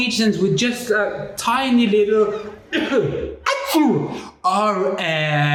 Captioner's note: cough